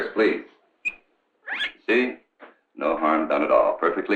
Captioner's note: guinea pig squeaking